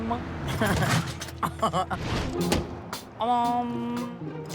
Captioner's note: chuckling